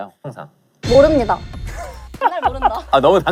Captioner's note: confident